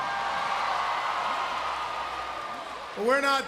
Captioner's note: crowd cheering